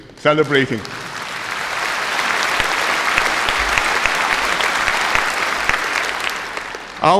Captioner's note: applause